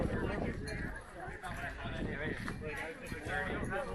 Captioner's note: crowd chattering